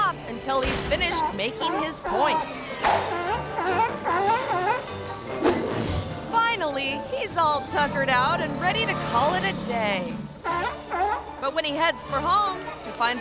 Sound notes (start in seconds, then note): 3.0 playful music; 3.0 seal barking; 10.4 seal barking